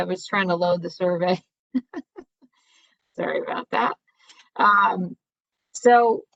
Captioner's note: laughter